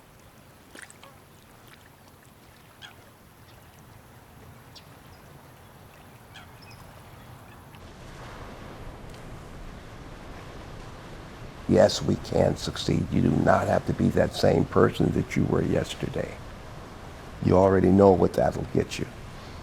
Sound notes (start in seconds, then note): 6.9 light breeze sounds continue